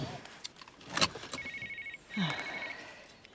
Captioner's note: handy ringing